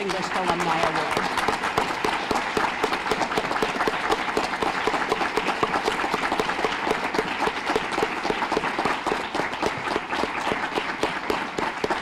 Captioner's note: applause